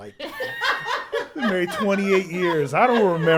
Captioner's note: all laugh